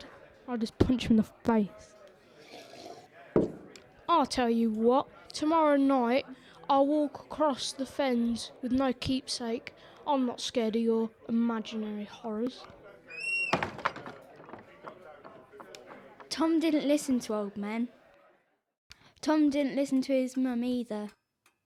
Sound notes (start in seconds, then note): 13.1 door closes